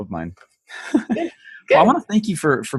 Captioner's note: laughs